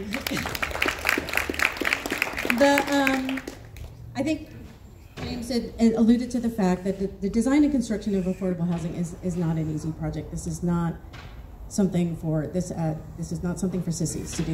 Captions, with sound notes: [applause] I think James alluded to the fact that the design and construction of affordable housing is not an easy project. This is not something for this. This is not something for sissies to do.